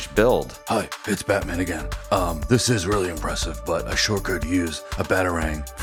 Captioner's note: Deep Batman voice